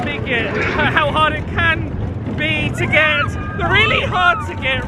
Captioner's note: shrieking